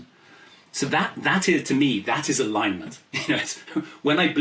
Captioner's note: laughs